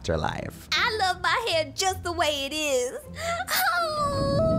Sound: crying

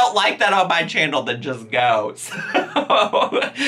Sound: laughing

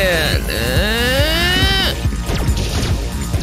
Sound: whiny sounds

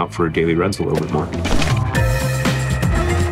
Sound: upbeat music; paper crumpling

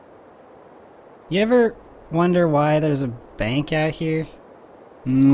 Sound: sniffle

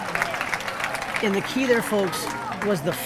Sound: audience clapping

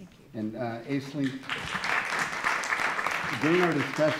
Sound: applause

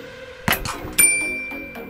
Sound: ding

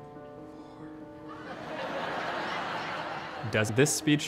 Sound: whispers

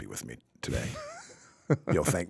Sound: chuckling

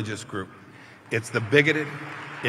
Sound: applause

